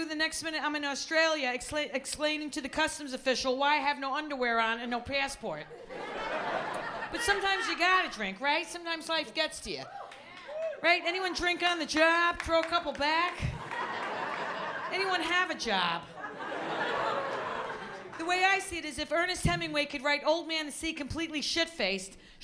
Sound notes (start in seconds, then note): 5.7 laughter; 13.4 laughter